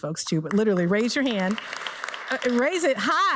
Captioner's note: audience applauds